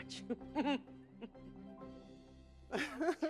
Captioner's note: laughing